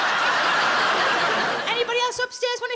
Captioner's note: audience laughs